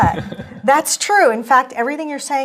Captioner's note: laugh